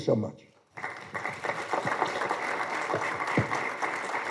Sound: applause

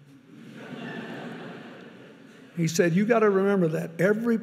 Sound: audience laughing

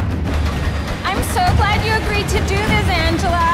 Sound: none

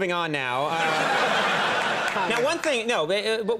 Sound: audience laughs

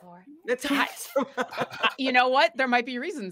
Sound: players laughing

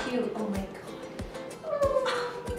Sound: cooing

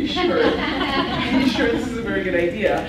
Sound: laughs

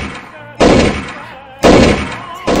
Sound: bang!

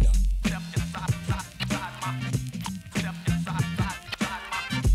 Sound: record scratching

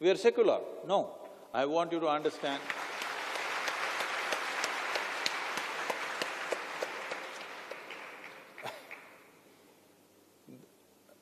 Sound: applause

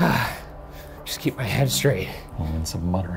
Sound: grunts

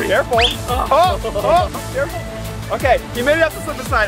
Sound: shouting

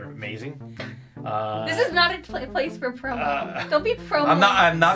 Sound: chuckles

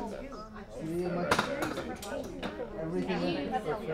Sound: crowd chatter

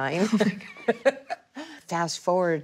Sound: both laughing

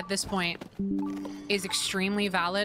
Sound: Windows Ba-Ding

